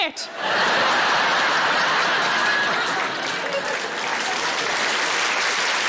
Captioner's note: audience laughing and applauding